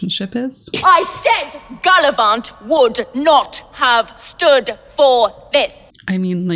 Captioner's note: shouting